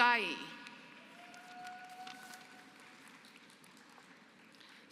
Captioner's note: applause